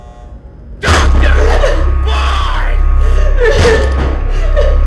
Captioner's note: alarm buzzing; David yelling; Elizabeth crying